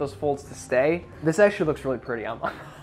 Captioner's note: laughs